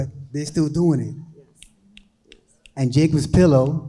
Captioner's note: snapping fingers